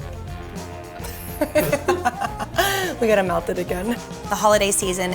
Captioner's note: laughter